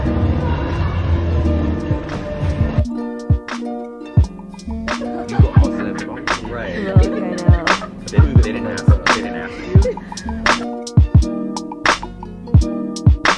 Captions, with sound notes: (upbeat music) (laughing) - You're lucky I said barbeque Ray. (upbeat music)